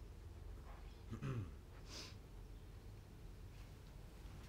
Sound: clears throat

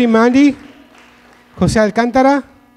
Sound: audience clapping

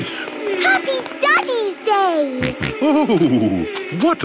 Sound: snorting

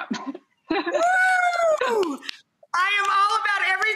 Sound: laughs

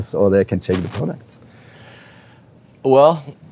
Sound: none

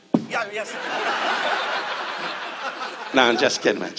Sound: audience laughs

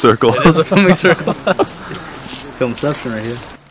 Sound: laugh

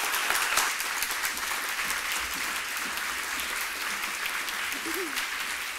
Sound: applause

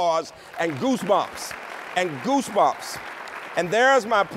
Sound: applause

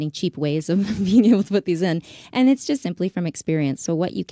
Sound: laughs

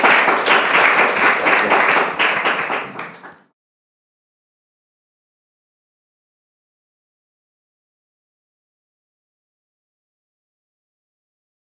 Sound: audience applauding

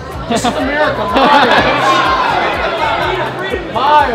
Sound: laughing

